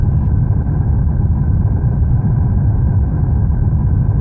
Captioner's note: fire roaring